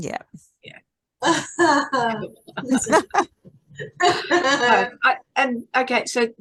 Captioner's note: everyone is laughing